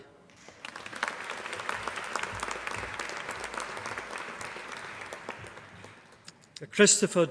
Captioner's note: applause